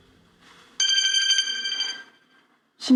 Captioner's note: phone ringing